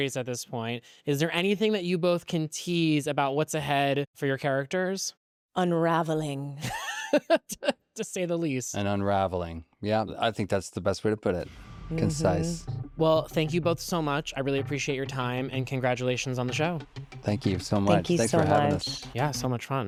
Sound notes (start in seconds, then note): 6.2 laughs